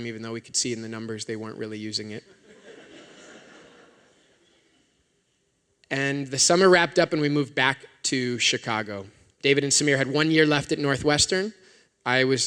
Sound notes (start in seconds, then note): 2.3 laughter